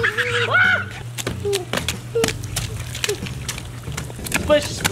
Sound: splashing

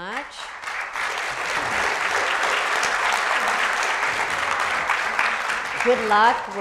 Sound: applause

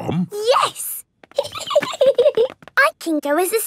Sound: giggling

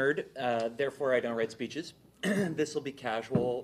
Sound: clears throat

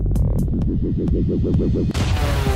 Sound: vibrations warbling; explosion booms

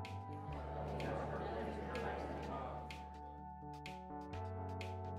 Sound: chatter

